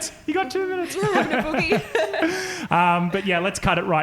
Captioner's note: laughing